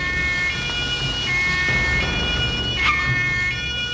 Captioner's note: siren